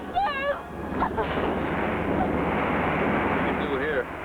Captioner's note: cries; stones rumbling